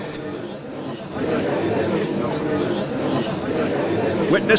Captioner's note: gallery chattering